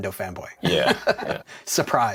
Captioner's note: laughter